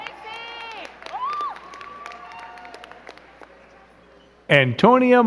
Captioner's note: crowd cheering and clapping